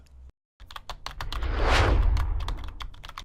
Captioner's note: typing